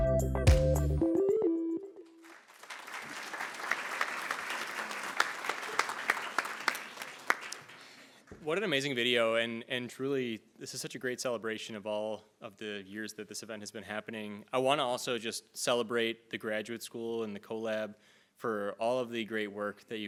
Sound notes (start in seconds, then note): 0.0 soft upbeat music; 2.2 attendees applauding